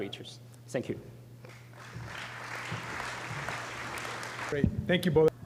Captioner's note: applause